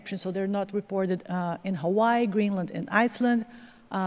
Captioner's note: none